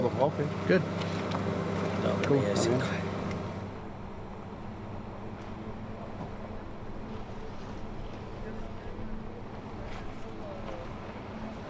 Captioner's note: car sounds and Agents over the microphone